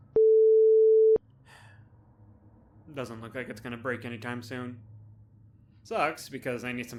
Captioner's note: sigh